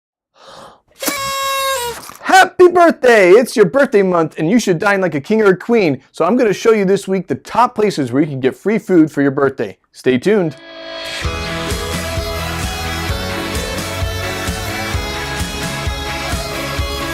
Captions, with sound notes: (party horn trumpeting) Happy birthday! It's your birthday month, and you should dine like a king or a queen. So I'm going to show you this week the top places where you can get free food for your birthday. Stay tuned. (upbeat music)